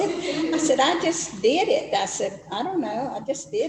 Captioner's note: laughs